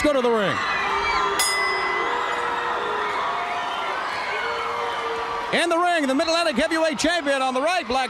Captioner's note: bell ringing